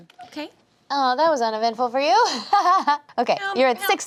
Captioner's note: laughs